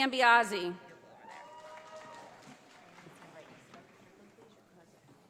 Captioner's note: audience applauding